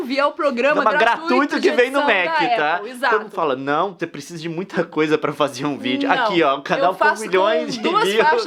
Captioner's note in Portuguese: risos